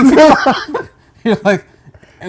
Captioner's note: laughter